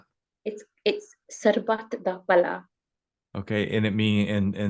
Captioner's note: speaking foreign language